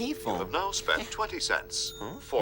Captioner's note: recorded Voice On Phone